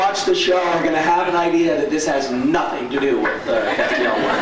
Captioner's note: laughs